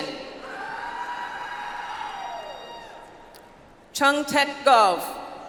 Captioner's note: audience applauds